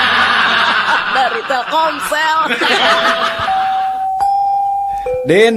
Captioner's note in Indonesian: tertawa